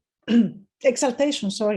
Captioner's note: clears throat